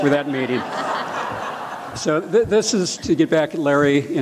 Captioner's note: laughter